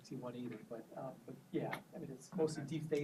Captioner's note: stammers